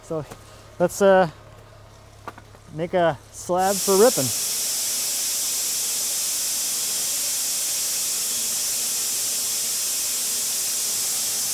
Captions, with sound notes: So that's a make a slab for ripping. (machine grinds)